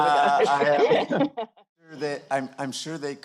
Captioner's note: laughter